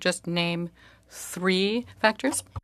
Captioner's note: speaking French